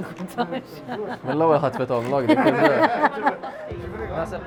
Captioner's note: chuckles